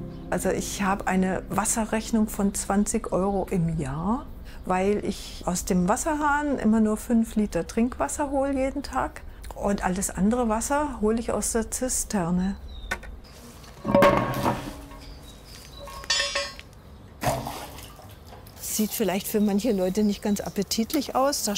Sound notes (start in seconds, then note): 13.8 lid rattles; 13.8 birds chirping; 17.2 water splashing